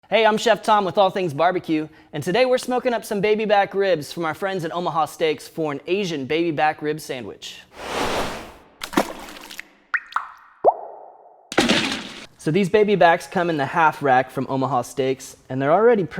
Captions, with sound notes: - Hey, I'm Chef Tom with All Things Barbecue and today we're smoking up some baby back ribs from our friends at Omaha Steaks for an Asian baby back ribs sandwich. (water splashing) So these baby backs come in the half rack from Omaha steaks and they're already